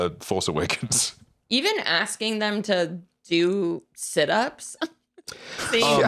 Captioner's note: laughs